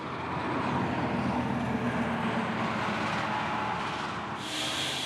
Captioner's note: rumbling truck engines